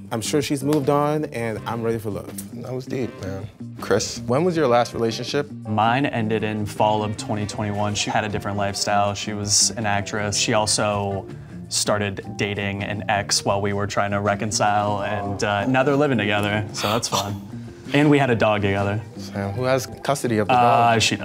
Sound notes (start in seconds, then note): 17.0 gasps